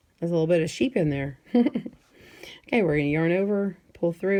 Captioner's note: giggles